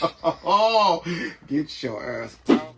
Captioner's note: laughing